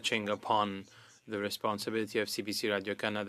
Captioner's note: speaking French